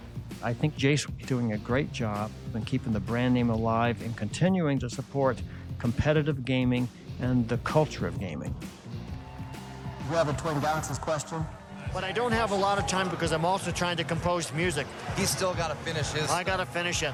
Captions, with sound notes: I think Jace is doing a great job in keeping the brand name alive, in continuing to support competitive gaming and the culture of gaming. -[crowd cheering] -You have a Twin Galaxies' question? But I don't have a lot of time because I'm also trying to compose music. - He's still gotta finish his stuff. - I gotta finish it.